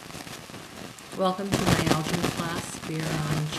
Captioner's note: voiceover